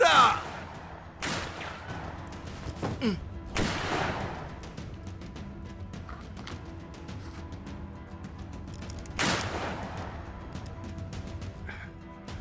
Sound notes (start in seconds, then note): 1.2 gunshots banging; 3.6 gunshot banging; 9.4 gunshot banging